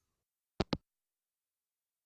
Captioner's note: hangup